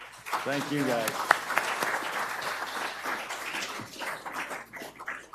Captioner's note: audience applauds